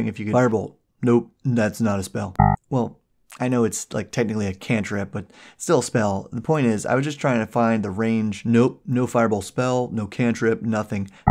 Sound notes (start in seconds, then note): 2.4 error beep